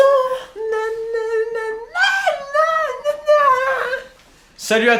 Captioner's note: still humming